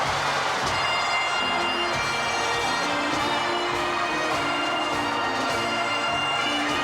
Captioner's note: crowd cheering; upbeat bagpipe music